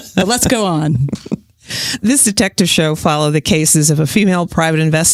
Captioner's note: laughs